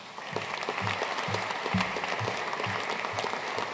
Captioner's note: audience applauding